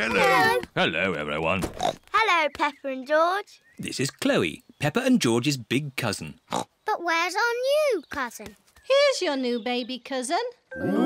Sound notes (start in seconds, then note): 6.4 oinks